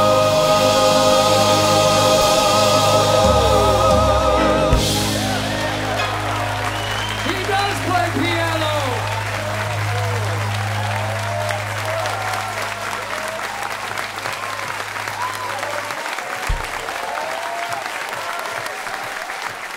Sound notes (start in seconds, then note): 5.4 cheers and applause; 9.4 cheers and applause continue